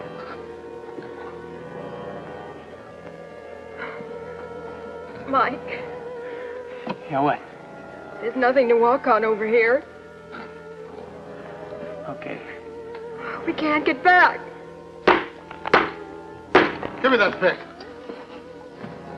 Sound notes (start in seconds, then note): 14.2 banging